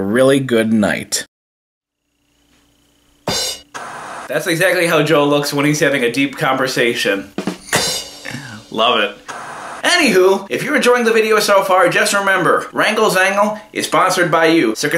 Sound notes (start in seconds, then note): 3.2 drum cymbal; 3.3 TV static; 7.4 drum cymbal; 10.1 TV static